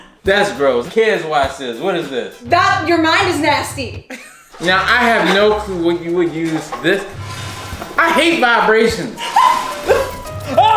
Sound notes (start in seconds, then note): 4.1 laughs; 7.0 dramatic music; 9.2 laughing